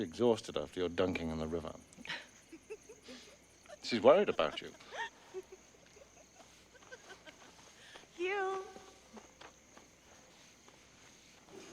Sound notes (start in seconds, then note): 2.0 fiona laughing; 5.0 laughing